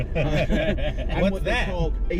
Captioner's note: mockingly